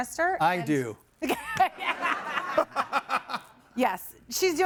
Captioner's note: laugh